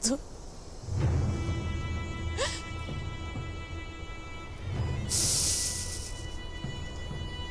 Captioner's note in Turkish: Ağlama sesleri